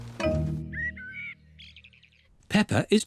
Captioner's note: birds chirping